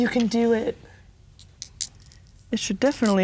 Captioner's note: dice rattling